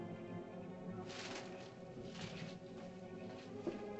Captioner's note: ominous music; bushes rustle; ominous music